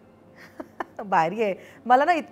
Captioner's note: Chuckles